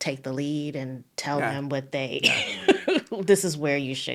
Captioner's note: laughing